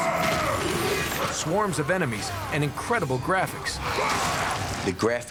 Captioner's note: roars; shouts